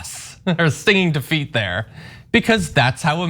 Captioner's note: laugh